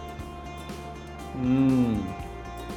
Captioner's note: yummy noises